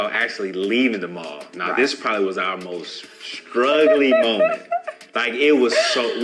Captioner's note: laughing